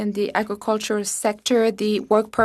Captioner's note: speaking French